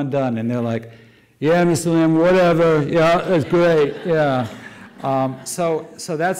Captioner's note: audience laughter